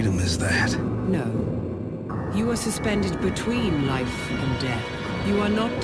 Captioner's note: mechanical voice